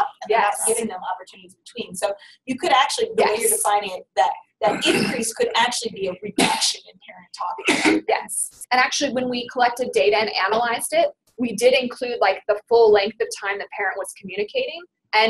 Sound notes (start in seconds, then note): 6.1 sneezing; 8.2 voiceover